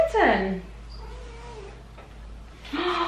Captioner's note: cat meowing